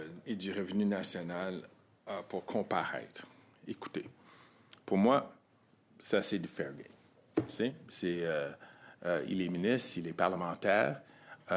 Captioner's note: speaking French